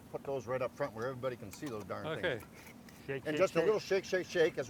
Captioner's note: none